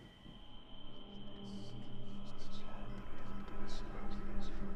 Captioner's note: ominous music; whispering, ghostly voices